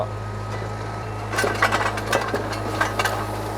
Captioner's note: metal grinds